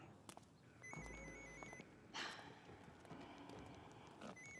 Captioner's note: phone ringing